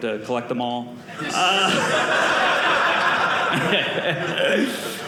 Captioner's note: audience laughing